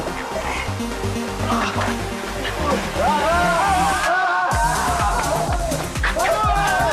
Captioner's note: gang members groaning and yelling